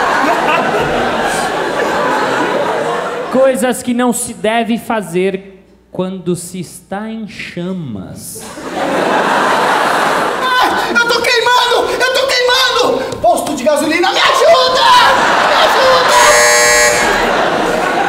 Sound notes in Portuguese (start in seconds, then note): 10.8 gritando; 16.0 campainha